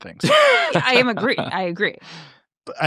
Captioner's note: laughs